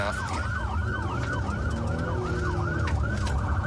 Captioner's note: engine guns